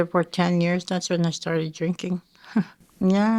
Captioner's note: chuckling